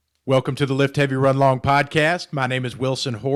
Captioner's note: voiceover